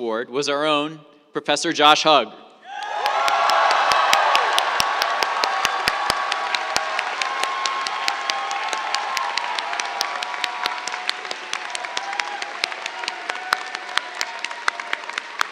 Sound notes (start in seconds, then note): 2.5 cheers, applause